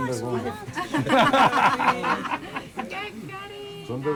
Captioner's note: laughs